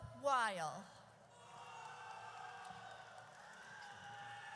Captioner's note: audience cheers